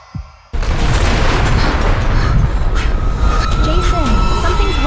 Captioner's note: suffocating fear music; concrete breaking loudly